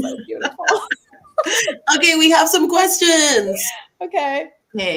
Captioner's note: laughter